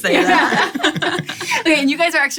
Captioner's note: laughter